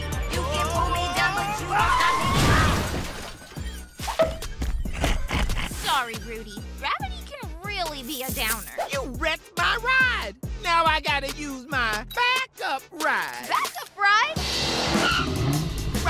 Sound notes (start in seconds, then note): 2.2 crashing; 4.9 laughs